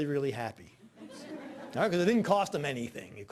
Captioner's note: audience laughing